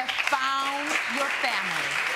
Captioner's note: audience applauding